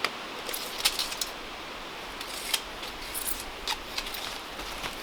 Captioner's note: measuring tape squeaking